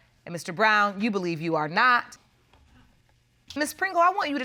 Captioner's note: none